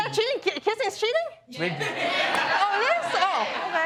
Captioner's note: scattered response from audience